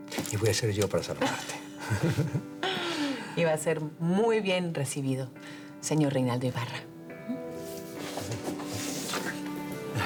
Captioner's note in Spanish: Risas